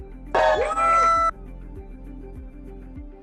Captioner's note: cheering